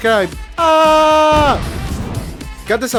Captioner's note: explosion